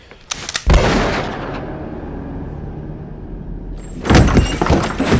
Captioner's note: gun fires; tense music; body thuds